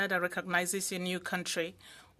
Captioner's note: speaking French